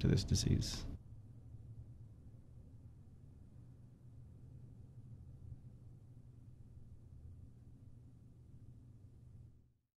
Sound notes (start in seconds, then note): 0.6 silence